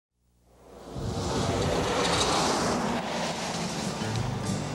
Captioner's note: car engine roaring